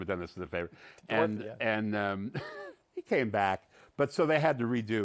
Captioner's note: chuckles